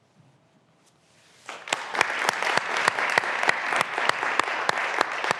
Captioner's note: graduands applauding